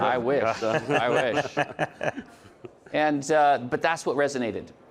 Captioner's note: laughs